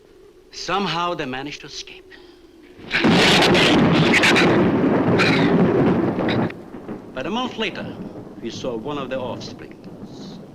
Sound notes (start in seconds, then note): 2.6 thunder claps; 2.8 shrew snarls